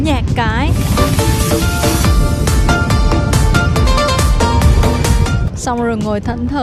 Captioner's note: random sound for dancing